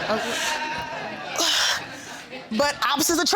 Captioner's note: exhales